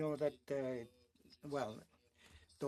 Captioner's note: speaking French